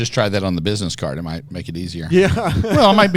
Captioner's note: laughs